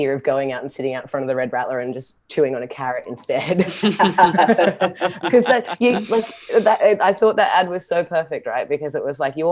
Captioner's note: laughter